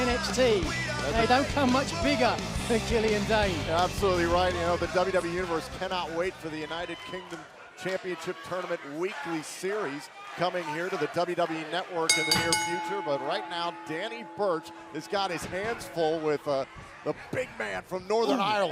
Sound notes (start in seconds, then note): 14.8 bell ringing